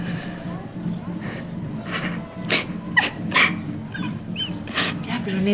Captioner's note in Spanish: sollozos